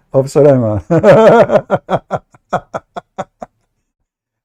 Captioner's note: Ketawa